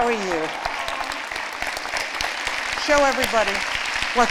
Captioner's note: applause